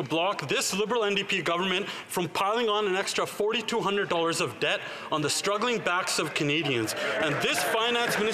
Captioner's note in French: voix de l'interprète